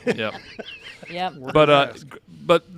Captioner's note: laughing